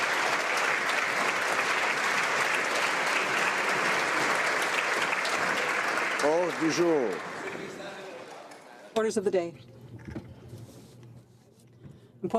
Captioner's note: applause